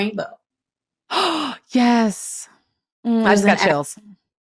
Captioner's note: gasps